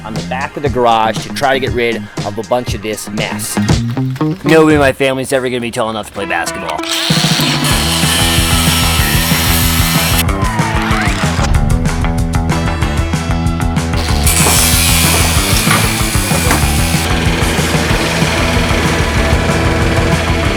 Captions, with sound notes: on the back of the garage to try to get rid of a bunch of this mess. Nobody in my family is ever gonna be tall enough to play basketball. (upbeat rock music) (drill whirring) (upbeat rock music)